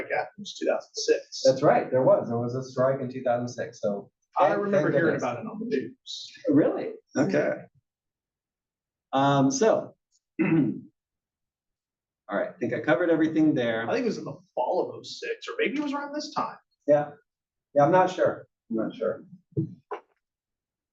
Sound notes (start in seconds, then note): 10.4 cough